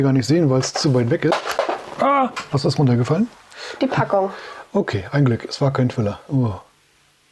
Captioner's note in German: lach